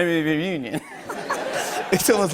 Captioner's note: laughter